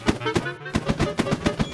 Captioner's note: balloons popping